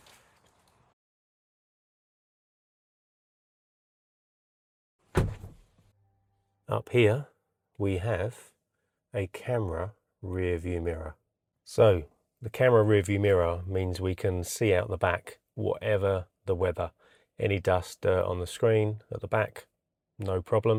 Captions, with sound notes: [DOOR SHUTTING] Up here we have a camera rear view mirror. So the camera rear view mirror means we can see out the back whatever the weather. Any dust on the screen at the back, no problem.